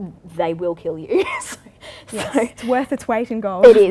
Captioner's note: laughs